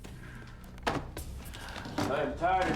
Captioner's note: bag thuds